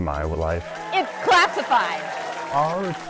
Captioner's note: crowd cheering